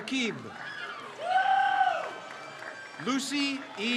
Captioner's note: crowd cheers